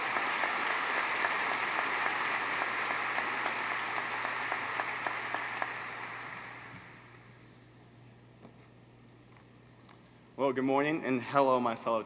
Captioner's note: applause